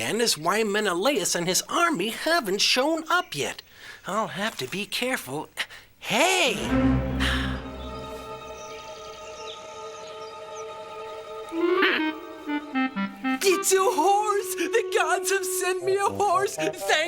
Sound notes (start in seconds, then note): 6.7 suspenseful music; 11.8 the Witch grunts